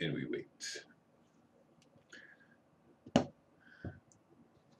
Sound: silence

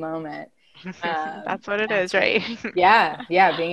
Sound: laughing

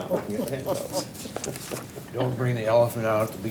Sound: laughs

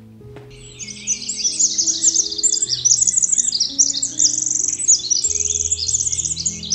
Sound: birds chirping

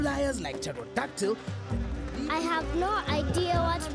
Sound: insects buzzing

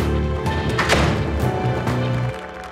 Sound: door closes; applause

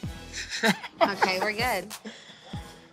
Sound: chuckles

